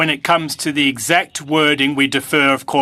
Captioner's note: speaking French